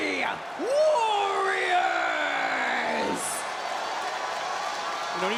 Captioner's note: crowd cheers